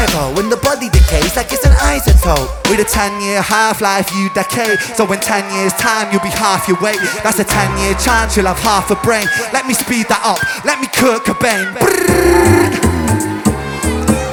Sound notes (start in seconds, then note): 11.8 music speeds up; 11.8 brrrrrrrrrrt